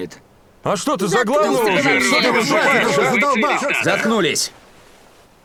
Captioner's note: outcries